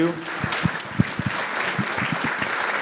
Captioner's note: applause